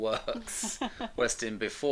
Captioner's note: laughing